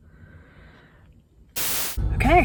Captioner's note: static